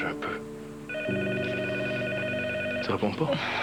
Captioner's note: Le téléphone sonne